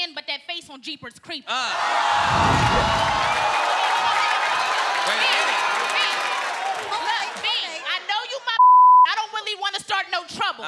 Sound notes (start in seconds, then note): 2.0 applause; 8.6 beep